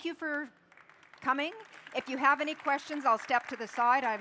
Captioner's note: applause